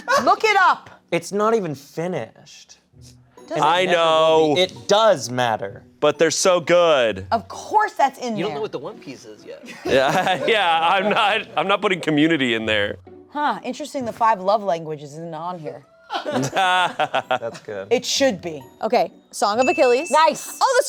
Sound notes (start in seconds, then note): 16.2 everyone laughing